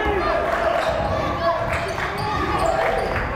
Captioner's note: yelling